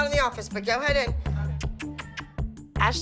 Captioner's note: kissing sounds